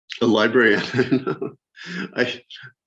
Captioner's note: chuckles